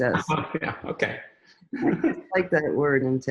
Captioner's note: chuckles